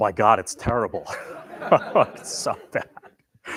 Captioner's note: laughter